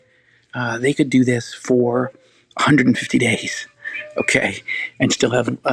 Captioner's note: laughing